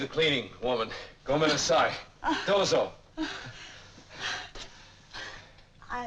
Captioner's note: speaking in foreign language